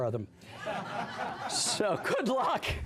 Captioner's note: laughter